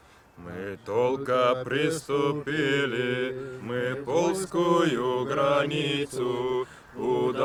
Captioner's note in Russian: хором